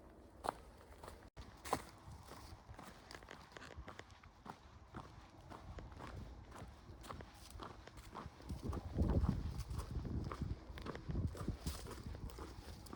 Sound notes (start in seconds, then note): 2.0 distant traffic noise